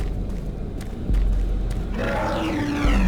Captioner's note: growling